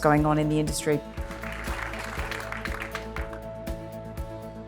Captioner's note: clapping